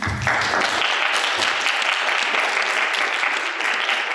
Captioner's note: applause